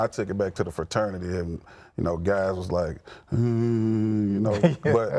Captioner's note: groaning